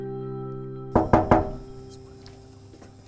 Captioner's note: knocking on door